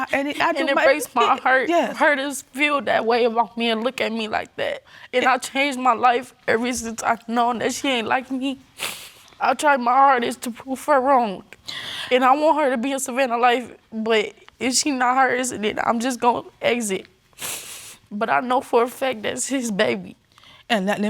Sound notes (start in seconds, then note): 8.8 sniffles; 17.4 sniffles